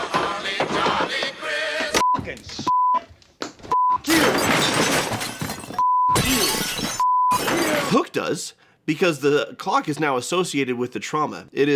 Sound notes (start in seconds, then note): 2.1 beeping